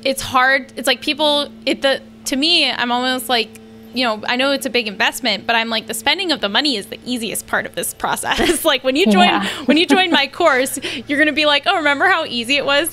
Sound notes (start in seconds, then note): 8.3 they laugh